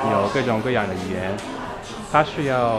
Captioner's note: mandarin